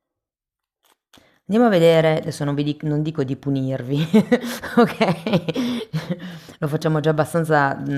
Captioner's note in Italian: risate